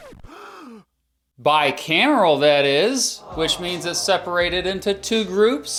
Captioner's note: gasp